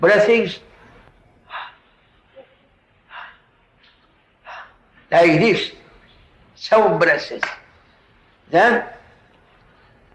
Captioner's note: breathing